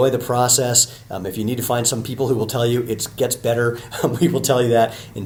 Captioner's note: chuckles